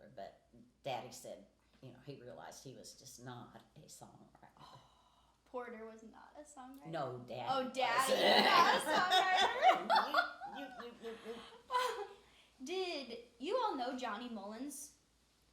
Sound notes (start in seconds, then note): 8.0 laughing